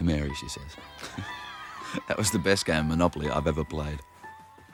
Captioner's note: laughs